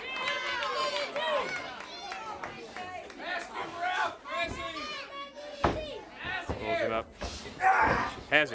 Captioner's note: crowd cheering